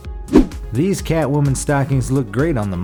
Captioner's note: air whooshes